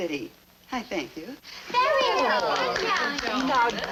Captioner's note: people clapping